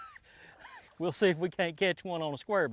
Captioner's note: laughs